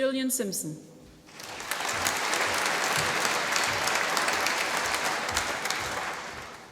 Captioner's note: applause